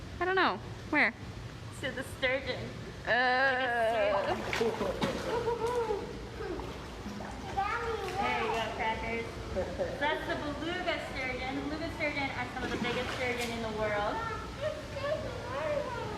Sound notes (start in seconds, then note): 4.0 water splashes; 5.1 laughs